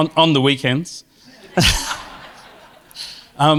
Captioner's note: laughter